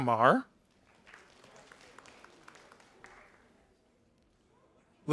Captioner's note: audience applauding